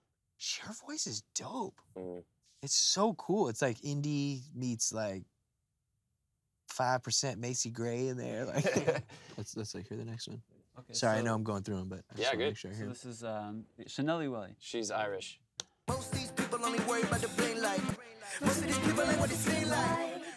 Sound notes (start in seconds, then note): 8.4 laughs